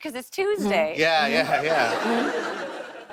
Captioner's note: laughter